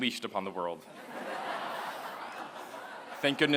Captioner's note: laughter